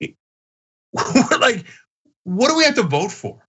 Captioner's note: laugh